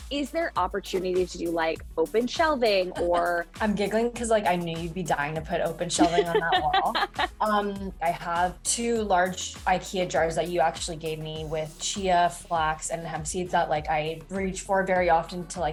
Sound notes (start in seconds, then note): 2.8 giggling; 5.9 laughing